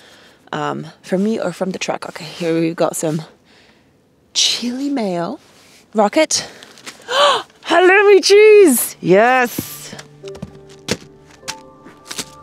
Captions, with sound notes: from me or from the truck. Okay, here we've got some chili mayo, raw ket. (gasps) Halloumi cheese, yes.